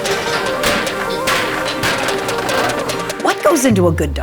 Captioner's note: metal clanging